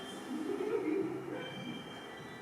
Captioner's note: Hatter giggles